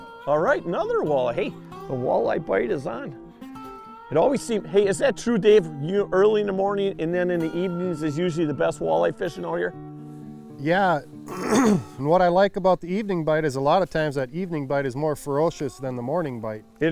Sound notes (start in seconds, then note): 11.2 clears his throat